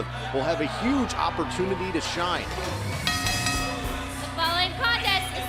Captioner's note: bell ringing